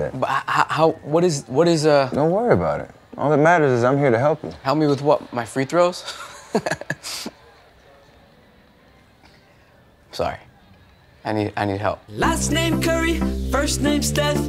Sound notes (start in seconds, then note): 6.0 chuckling; 7.6 awkward Silence